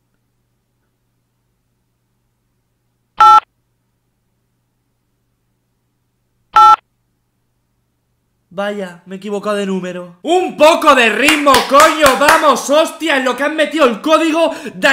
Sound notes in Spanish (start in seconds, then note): 3.2 pitido x3 :v; 6.5 pitido x4 :v